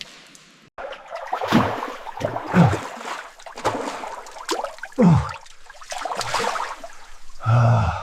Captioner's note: water splashing